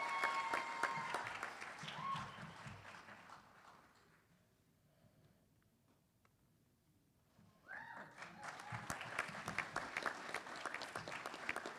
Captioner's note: applause